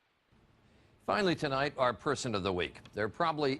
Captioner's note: voiceover